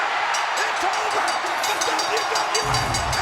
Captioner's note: bell ringing